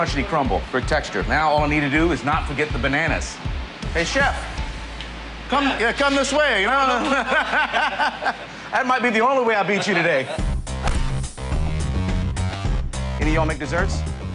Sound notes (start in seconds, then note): 9.7 both laughing